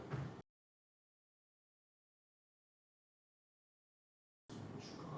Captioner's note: the awkward silence lasted for a while